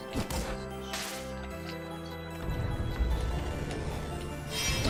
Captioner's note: creepy whispers